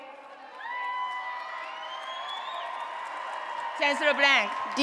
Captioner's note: applause and Cheering